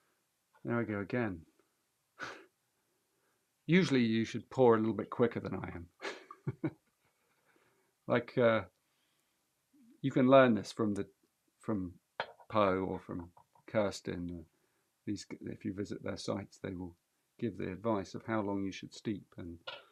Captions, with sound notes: There I go again. [chuckles] Usually, you should pour a little bit quicker than I am. [laughs] Like, you can learn this from the-- from Po or from Kursten, these-- If you visit their sites, they will give the advice of how long you should steep, and--